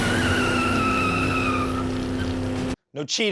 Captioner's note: car screeches loudly